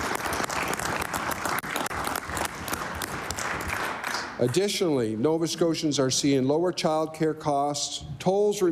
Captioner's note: applause